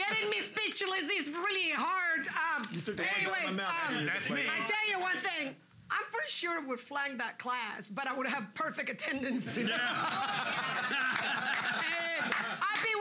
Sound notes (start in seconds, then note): 3.9 shouting; 9.5 loudly laughing; 10.5 bell softly chimes